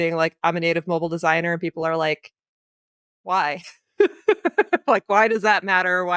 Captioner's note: giggles